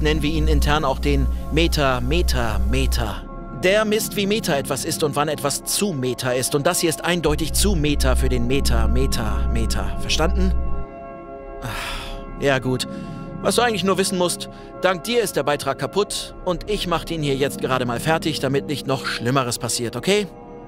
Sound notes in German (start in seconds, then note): 11.6 Seufzen